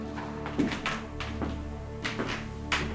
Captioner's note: eerie music; footsteps